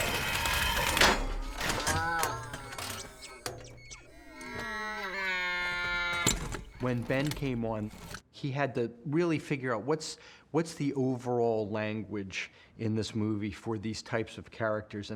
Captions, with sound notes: (CLANKS) (MUTTERING) (MOANING) When Ben came on, he had to really figure out what's the overall language in this movie for these types of characters,